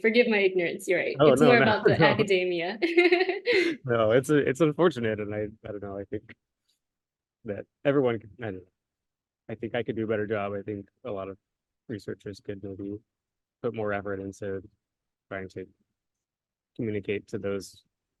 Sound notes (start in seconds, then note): 1.4 laughter